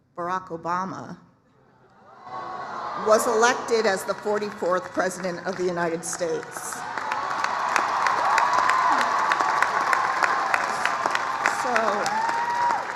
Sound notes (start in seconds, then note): 6.9 applause, cheering